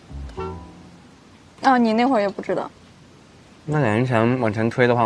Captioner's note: none